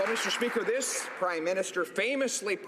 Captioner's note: some Applause